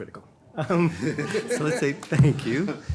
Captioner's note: panel laughing